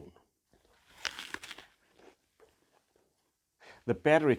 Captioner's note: crunches apple